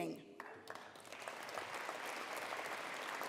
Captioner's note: applause